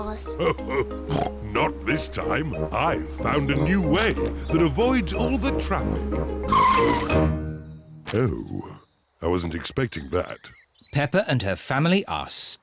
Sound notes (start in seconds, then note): 0.2 laughs; 6.4 tires screech